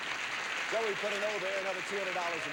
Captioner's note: audience applauding